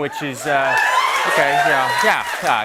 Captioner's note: cheers and applause